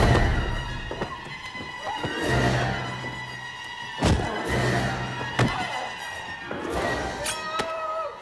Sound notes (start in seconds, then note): 4.0 thudding